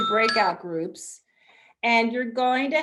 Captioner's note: bell dinging